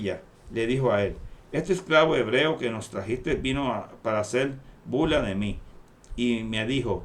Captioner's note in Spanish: Hebreo